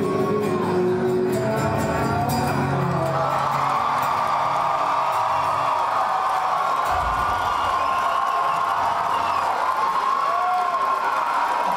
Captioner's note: cheers and applause